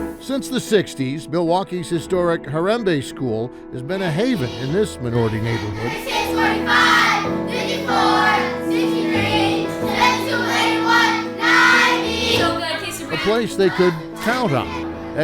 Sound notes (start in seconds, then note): 0.0 soft piano music; 6.8 kids chanting